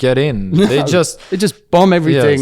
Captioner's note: laughs